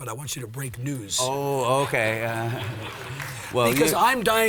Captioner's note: audience laughs